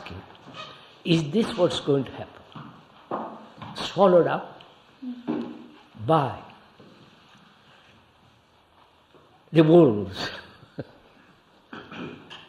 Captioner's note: laughs